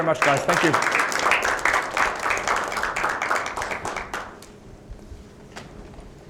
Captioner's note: applause